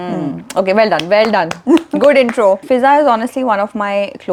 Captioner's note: claps